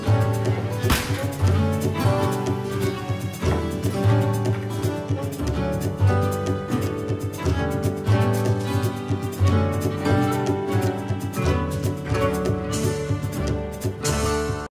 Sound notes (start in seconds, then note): 0.9 oven closes